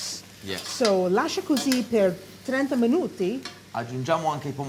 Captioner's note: speaking italian